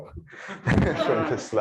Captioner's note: laughter